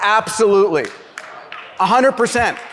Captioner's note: clapping